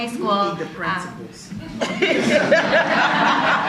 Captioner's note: laughter